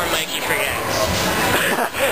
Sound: laughs

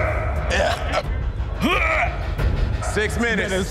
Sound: retching

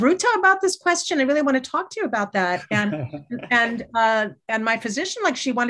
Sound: laughter

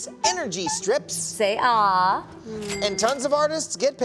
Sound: cash register chimes

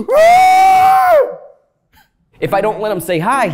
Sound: screams

